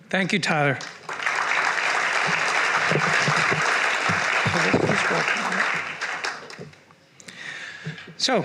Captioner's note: applause